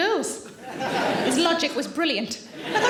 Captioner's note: audience laughing